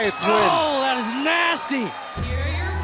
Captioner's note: bell ringing